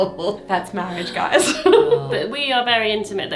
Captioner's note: laughs